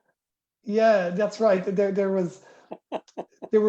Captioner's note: laughter